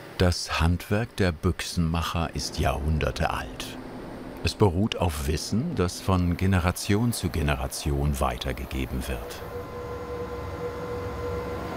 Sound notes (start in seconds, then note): 9.8 roaring